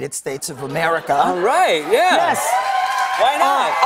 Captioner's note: cheers and applause